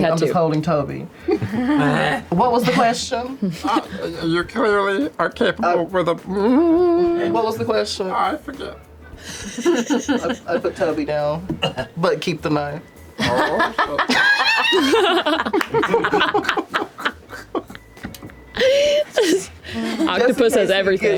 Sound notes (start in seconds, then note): 1.6 grunts; 9.3 laughter; 15.8 laughter